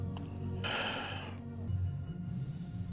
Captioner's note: emotional exhale